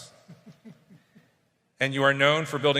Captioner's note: chuckles